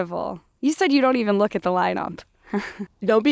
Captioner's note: laughs